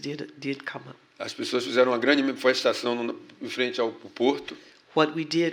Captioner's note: speaking portuguese